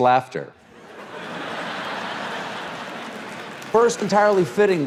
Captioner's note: audience laughs